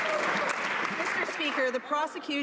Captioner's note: some Applause